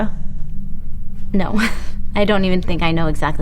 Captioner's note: chuckles